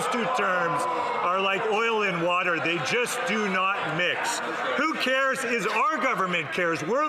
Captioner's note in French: voix de l'interprète